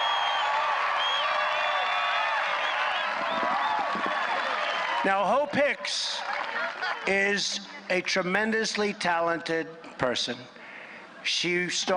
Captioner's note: applause